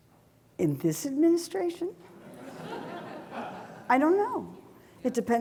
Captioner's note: audience laughing